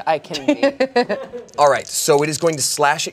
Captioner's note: laughs